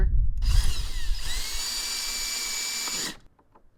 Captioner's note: drill whirring